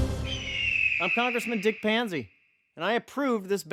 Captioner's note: voiceover